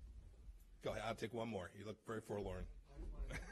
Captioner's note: laughter